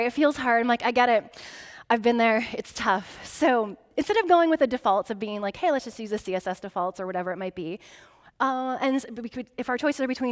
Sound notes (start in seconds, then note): none